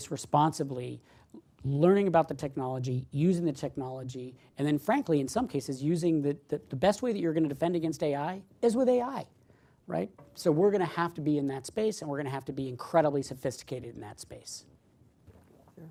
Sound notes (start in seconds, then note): none